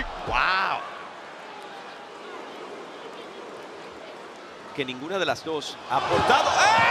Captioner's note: applause